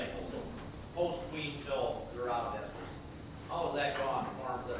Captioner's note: speaking faintly